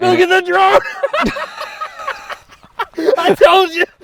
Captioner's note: laughs